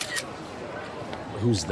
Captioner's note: snaps photo